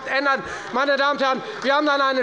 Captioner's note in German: Beifall bei der FDP und bei Abgeordneten der SPD - Zurufe von der CDU